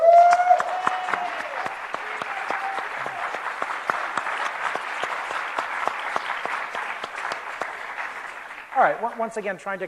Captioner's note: applause